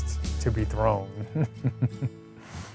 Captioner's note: chuckles